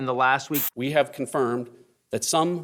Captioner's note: static hissing